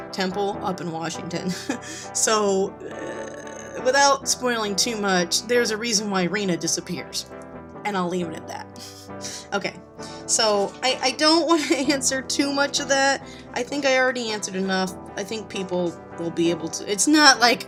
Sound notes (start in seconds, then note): 9.2 snickers